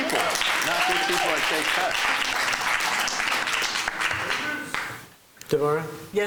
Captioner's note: applause